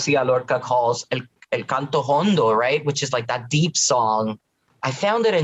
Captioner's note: Spanish language